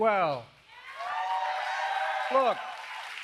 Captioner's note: applause